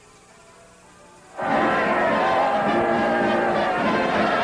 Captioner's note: cheering